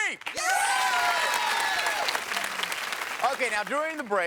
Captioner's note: audience cheers